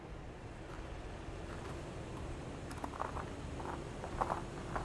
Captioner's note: vehicle humming